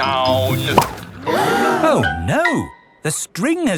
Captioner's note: all gasp